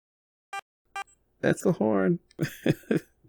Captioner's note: honk, honk